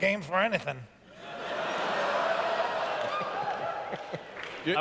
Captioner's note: laughter